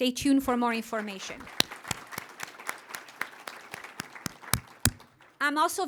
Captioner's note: applause